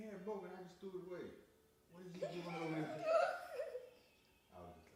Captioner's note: laughing